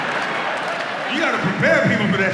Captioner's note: audience laughs